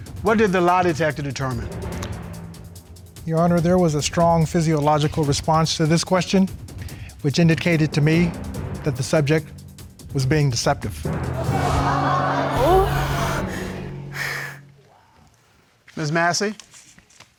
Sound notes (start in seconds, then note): 11.3 audience exclaiming; 12.5 gasps